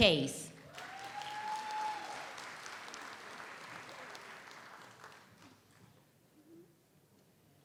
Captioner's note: audience applauds; audience cheers